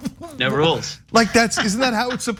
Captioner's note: laugh